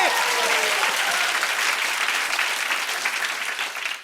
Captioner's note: cheers and applause